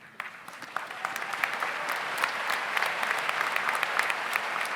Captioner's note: audience applauds